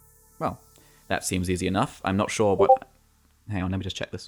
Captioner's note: Discord notification sound